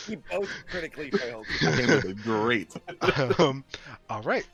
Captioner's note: laughter